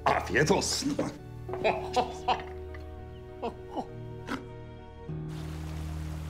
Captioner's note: laughter